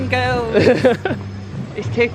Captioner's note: laughs